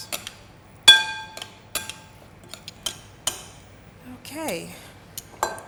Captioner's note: spoons clanking